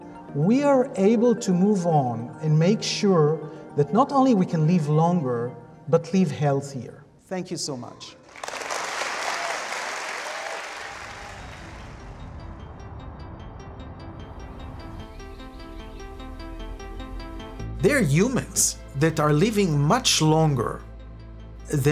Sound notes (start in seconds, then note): 8.2 audience applauding; 11.8 playful music